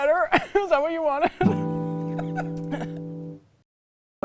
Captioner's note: laughs